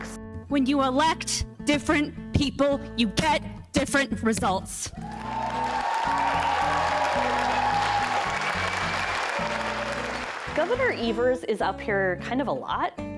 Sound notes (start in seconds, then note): 5.0 audience applauding